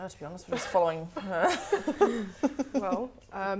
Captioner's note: laughing